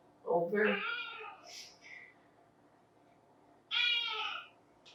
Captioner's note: cat meowing